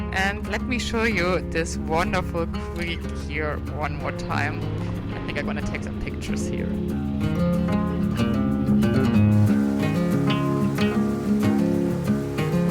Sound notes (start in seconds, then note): 8.2 country music continues; 9.5 water flowing